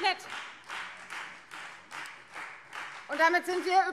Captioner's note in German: Beifall Freie Demokraten